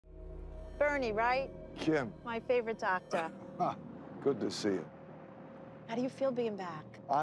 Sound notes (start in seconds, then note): 3.1 laughs; 5.0 eerie music